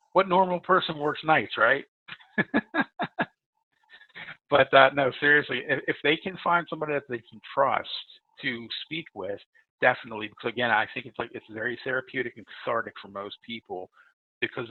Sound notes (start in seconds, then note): 2.1 laughs loudly